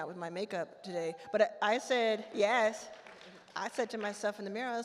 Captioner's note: attendee whoops